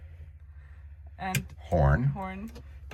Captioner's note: button clicks